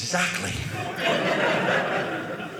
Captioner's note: audience laughing